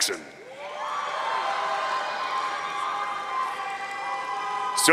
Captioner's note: audience cheering